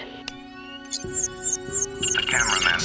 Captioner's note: whirring